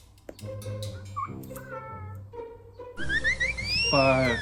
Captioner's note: San meow